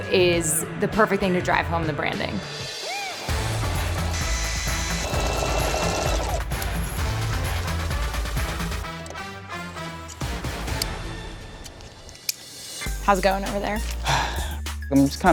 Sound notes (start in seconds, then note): 3.0 upbeat music; 3.3 machines whirring; 14.0 sighing